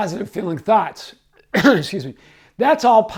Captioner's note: coughing